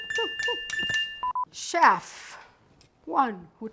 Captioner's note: cha-ching sound effect; bar tone beeping